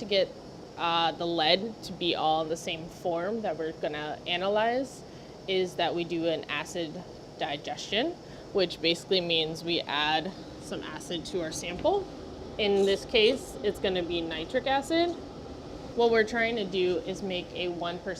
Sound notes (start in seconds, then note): none